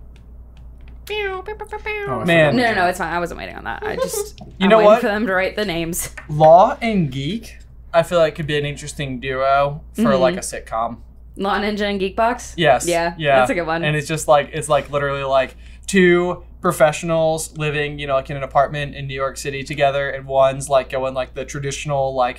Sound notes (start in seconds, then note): 1.5 airhorn sound effect